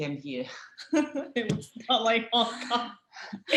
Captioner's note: laughter